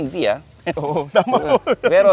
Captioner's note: laughs